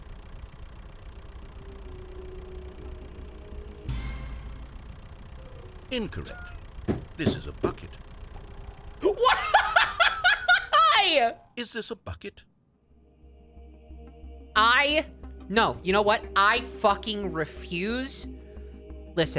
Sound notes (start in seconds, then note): 0.1 engine running; 1.2 thoughtful music; 3.8 orchestra hit; 5.5 "wrong" sound; 7.1 laughs and hits the desk; 9.0 laughing; 12.8 thoughtful music